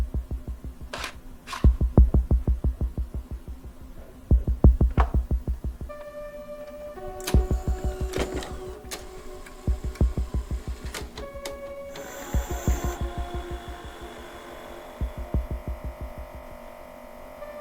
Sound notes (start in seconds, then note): 7.5 VHS machine whirs and clicks; 15.4 TV hums